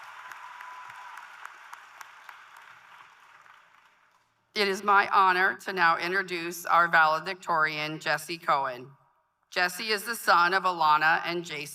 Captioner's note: applause